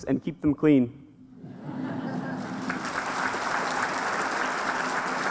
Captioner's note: applause